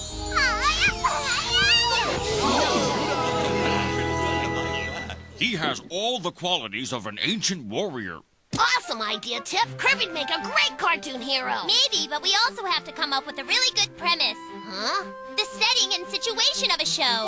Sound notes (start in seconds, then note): 0.4 happily; 2.1 all exclaiming